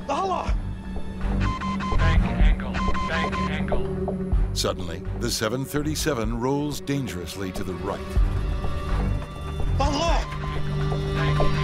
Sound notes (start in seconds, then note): 1.2 warning beeping